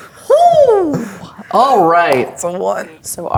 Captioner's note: claps